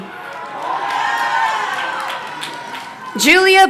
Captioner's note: crowd cheering